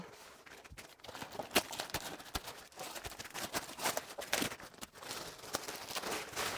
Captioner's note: rustling